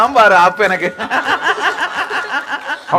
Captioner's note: man laughs